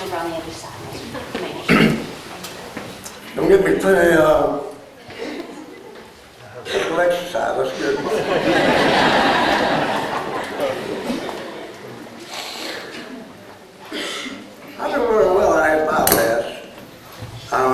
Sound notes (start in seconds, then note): 7.8 laughter